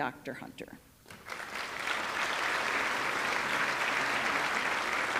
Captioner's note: audience clapping